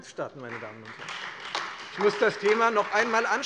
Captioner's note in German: Beifall Freie Demokraten und vereinzelt AfD